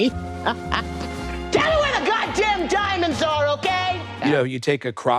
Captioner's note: at the top of her voice